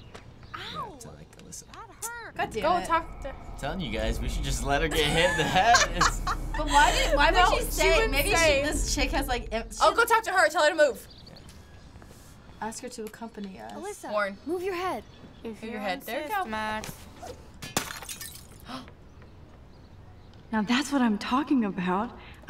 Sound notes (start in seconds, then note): 4.7 laughs; 17.4 gasps; 17.6 glass shattering